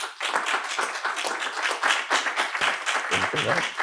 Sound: audience applause

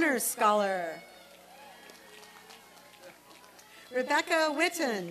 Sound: applause and cheering

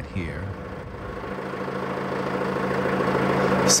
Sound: engine noise

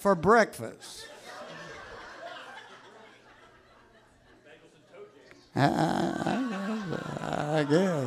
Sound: audience laughs

